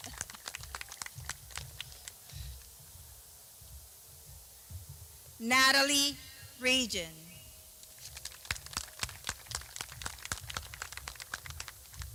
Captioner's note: clapping